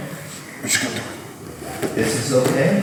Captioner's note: speaking in a foreign language